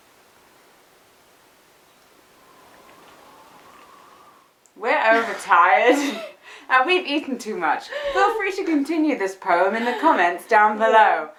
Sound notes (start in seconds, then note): 2.1 gentle wind blowing